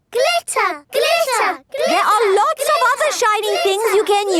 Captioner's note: chanting